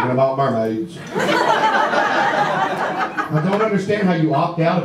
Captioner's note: audience laughter